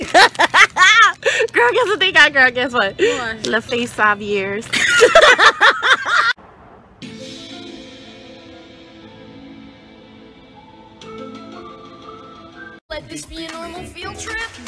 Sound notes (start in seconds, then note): 0.0 laughs; 4.7 laughs together